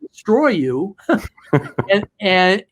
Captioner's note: both laughs